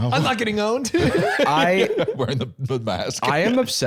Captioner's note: laughs